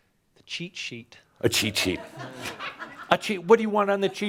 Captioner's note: some laughter